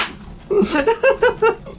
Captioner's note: laughs